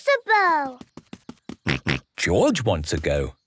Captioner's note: snorts